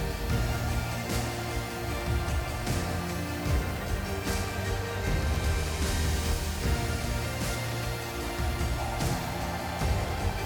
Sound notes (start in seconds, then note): 4.9 gentle upbeat music; 5.0 blower whooshing